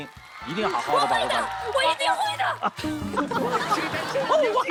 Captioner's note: cheering